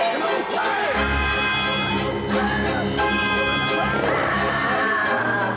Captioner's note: screaming